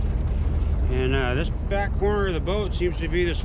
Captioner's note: boat engine idling